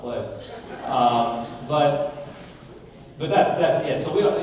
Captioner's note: audience laughing